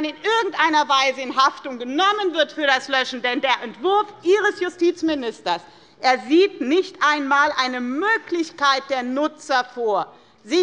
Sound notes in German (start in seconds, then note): none